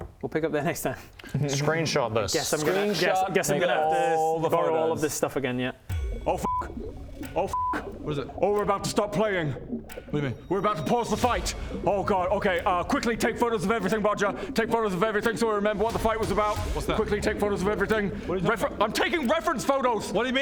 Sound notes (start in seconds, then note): 5.9 ding